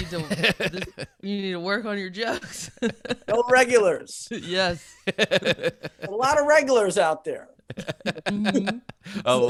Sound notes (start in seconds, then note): 0.0 Chris laughing; 2.8 laughing; 4.8 laughing; 7.6 laughing